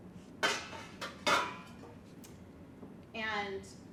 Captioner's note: pans clang